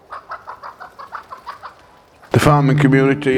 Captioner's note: hens cluck